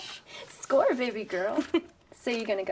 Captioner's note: Abby giggles